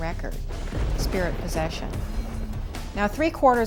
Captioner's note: thunder crashing